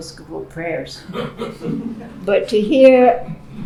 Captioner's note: laughing